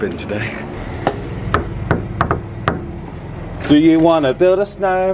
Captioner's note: knocking on door